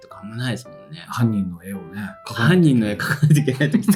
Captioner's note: laughs